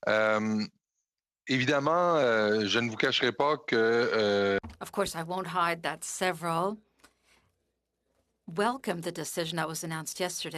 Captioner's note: speaking French